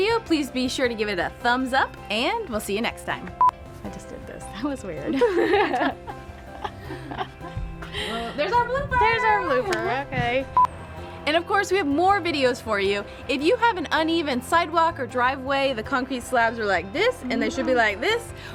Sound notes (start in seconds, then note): 3.4 beep; 5.0 giggling; 10.5 beep